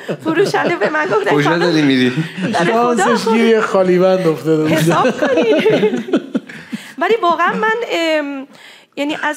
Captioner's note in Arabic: هههههههههههه